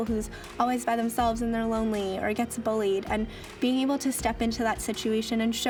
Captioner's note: none